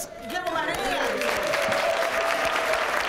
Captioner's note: applause